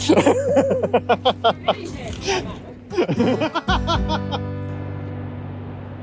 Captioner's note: laughs